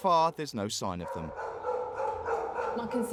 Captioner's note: dog barking